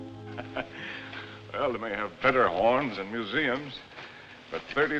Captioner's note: laughs